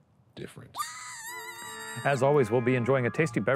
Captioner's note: spooky shrieking